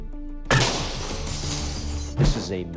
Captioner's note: glass shattering